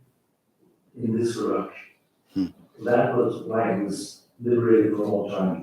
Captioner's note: faintly speaking